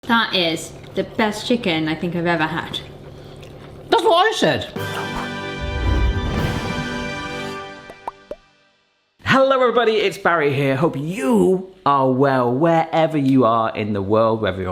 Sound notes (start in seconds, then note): 4.7 dramatic fanfare music; 7.6 logo popping